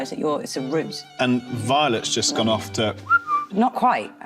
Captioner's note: whistling